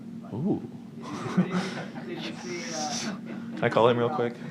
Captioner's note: light laughter